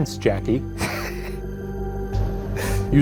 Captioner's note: laughs